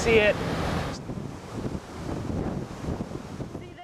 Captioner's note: wind blowing